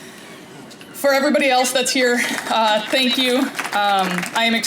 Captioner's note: applause